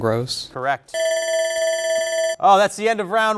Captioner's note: bell rings